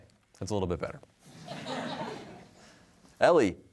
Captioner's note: laughter